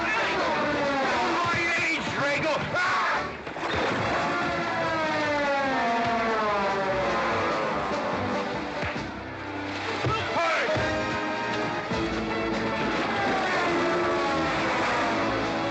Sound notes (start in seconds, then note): 3.8 sounds of scuffling & fighting; 3.8 western fight music